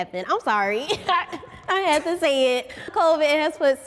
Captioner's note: laughs